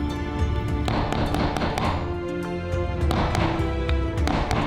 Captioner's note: mallet pounding